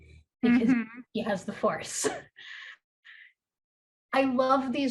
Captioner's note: chuckles